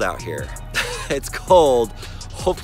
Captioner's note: laughs